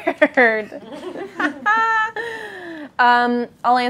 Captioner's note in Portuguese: risos